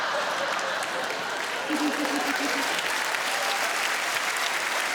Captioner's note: audience laughing; audience clapping